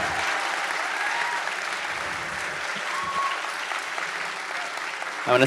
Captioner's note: continued audience cheering